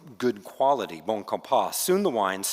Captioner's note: speaking French